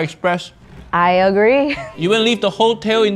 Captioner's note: chuckles